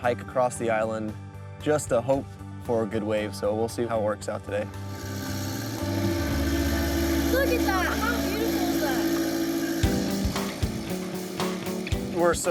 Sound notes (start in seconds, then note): 4.6 motor running; 10.7 upbeat music